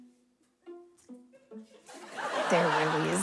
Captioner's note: studio audience laughs